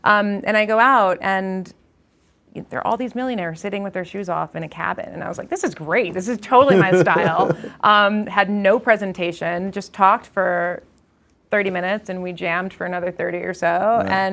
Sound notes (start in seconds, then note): 6.5 instructor laughs